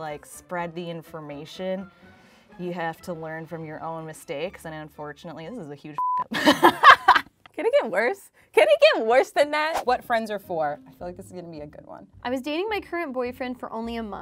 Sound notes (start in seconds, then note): 6.3 laughter